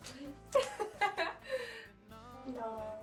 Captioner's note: laughing